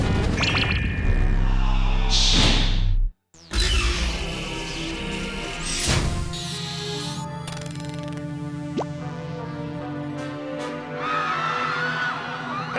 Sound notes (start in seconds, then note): 11.0 terrified screams